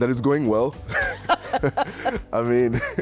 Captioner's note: laughing